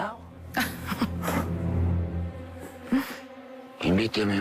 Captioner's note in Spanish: Isabel ríe